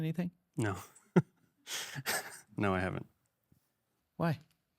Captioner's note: laughs